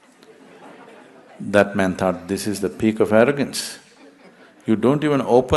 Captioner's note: laughter